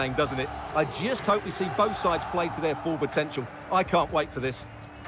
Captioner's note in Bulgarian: Аплодисменти